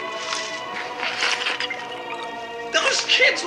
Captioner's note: chugs